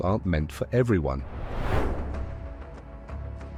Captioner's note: transition whooshing; suspenseful music continues